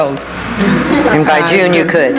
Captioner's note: everyone chuckles